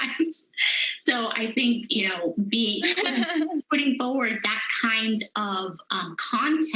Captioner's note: laughter